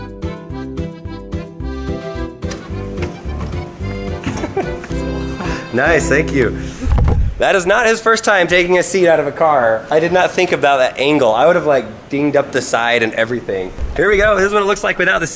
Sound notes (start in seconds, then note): 0.0 polka music; 4.1 laughter